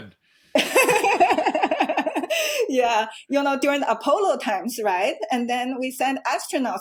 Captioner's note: laughs